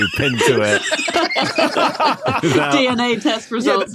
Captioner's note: group laughing